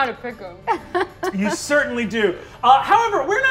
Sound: laughing

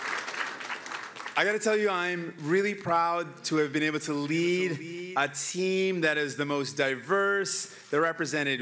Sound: cheering

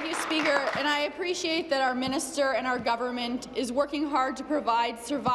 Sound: applause

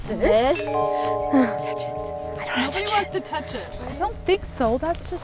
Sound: whispers

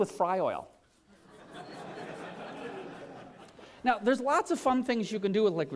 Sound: laughter

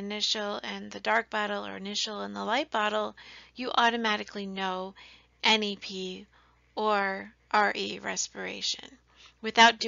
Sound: respiration

